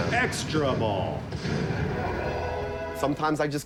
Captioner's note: triumphant pinball sounds